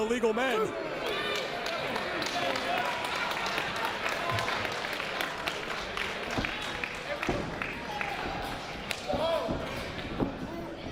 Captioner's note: applause